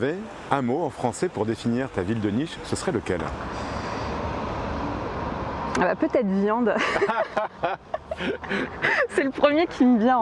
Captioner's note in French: rires